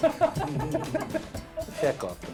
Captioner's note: laughters